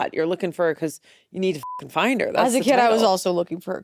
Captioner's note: beep